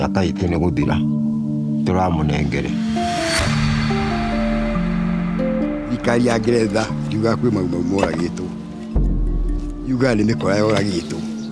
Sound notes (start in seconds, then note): 0.2 speaking in foreign language; 3.5 compelling music continues; 6.0 speaking in foreign language